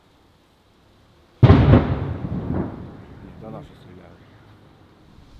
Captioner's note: the sound of explosion